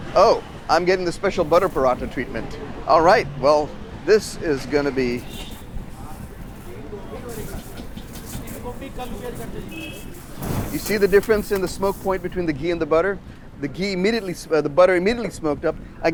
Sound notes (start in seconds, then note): 6.0 paratha whooshing